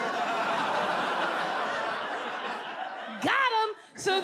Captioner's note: audience laughs